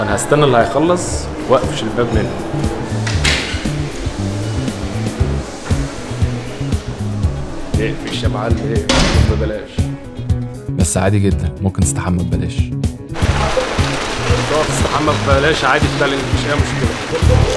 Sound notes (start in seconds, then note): 3.1 door opens